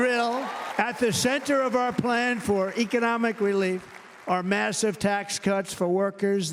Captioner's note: cheers and applause